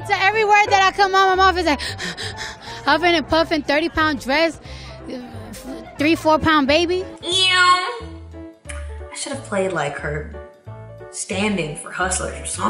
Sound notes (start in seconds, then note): 1.6 huffs